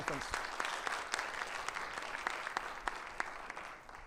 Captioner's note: audience applauding